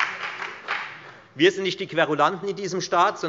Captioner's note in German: Beifall bei der FDP, der SPD und der LINKEN